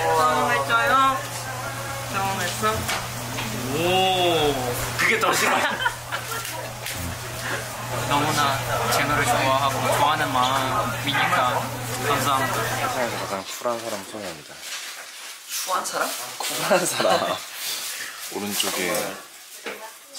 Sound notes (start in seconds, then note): 5.2 laughing